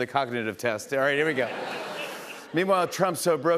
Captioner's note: laughter